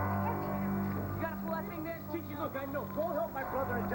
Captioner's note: sirens wail